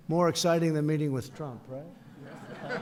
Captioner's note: laughter